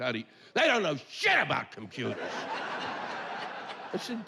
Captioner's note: yelling